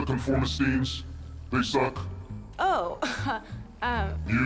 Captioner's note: chuckles